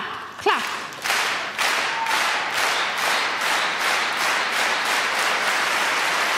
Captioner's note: audience clapping rhythmically